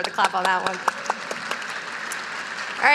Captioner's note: audience applauding